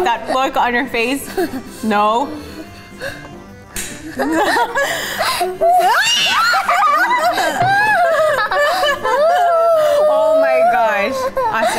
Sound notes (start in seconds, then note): 6.2 laughs